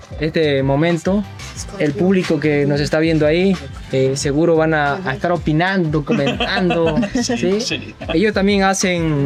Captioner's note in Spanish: risas